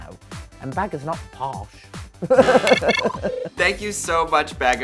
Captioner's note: chuckles